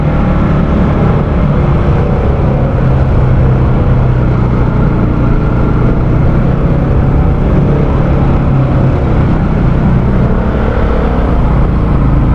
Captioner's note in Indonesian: suara sepeda motor